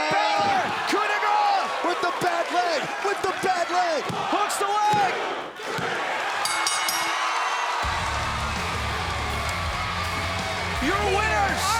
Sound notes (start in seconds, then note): 6.4 bell ringing; 7.7 crowd cheering